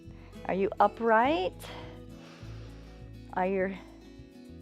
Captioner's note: inhales